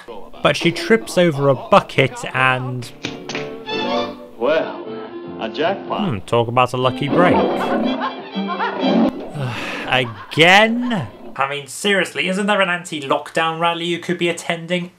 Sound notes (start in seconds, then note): 8.6 guffawing; 9.1 sighs in annoyance